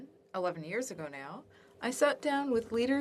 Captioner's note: speaking French